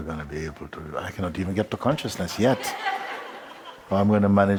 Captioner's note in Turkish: Kahkaha